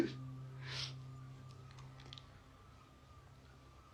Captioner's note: नाक से की जाने वाली आवाज़